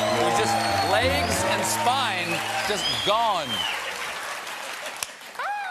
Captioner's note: cheers and applause